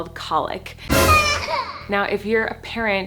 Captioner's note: baby crying